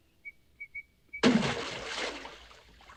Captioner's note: splash